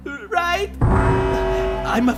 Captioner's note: siren blares